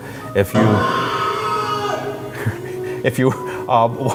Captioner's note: man screaming